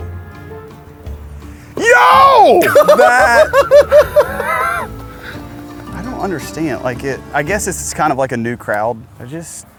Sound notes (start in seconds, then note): 2.6 laughs